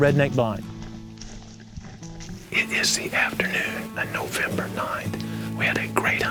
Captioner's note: whispering